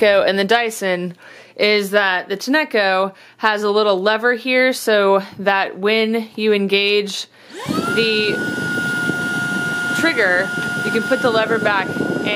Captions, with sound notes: and the Dyson is that the Tineco has a little lever here so that when you engage (vacuum motor powers on) the trigger, you can put the lever back